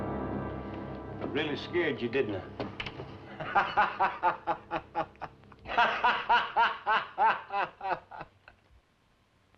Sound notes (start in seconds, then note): 3.3 laughing